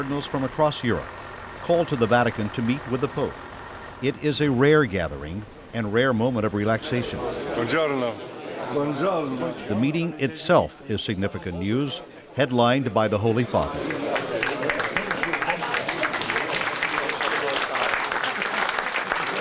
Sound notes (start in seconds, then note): 7.7 distant conversations; 13.4 applause